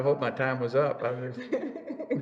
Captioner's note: laughs